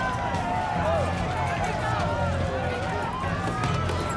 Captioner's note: sirens wailing